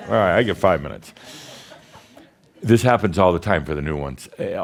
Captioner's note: audience says “Yes”